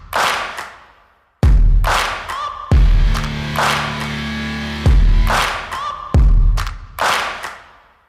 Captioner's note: Tepuk tangan